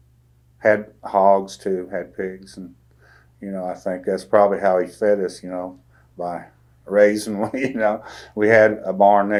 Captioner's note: laughs